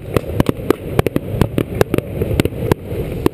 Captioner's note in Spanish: booms fuertes y flequillo